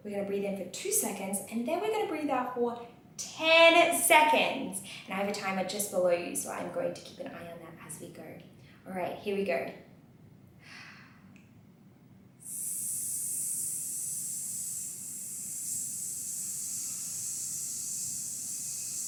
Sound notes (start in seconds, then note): 10.4 ss sound